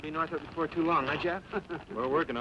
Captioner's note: chuckles